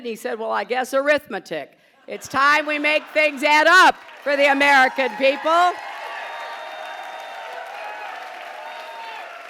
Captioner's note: applause